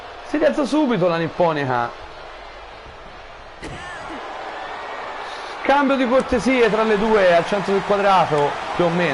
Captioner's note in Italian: Applauso